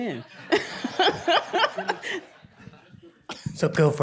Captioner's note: group laughing